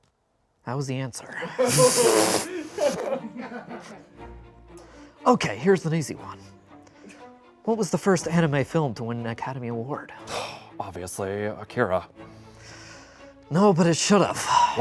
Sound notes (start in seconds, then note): 2.4 and crew laugh